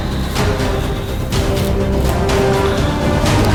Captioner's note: sighs